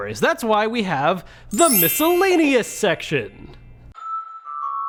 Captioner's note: chimes whooshing